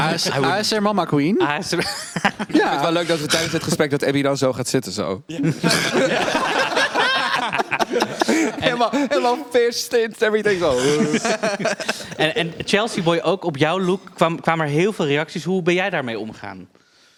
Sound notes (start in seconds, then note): 11.0 cackle